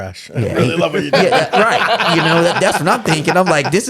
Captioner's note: laughing